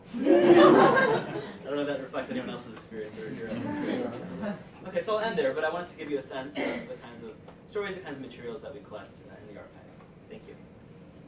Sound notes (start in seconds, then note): 0.1 laughter; 3.4 laughter